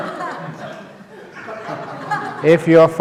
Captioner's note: laughter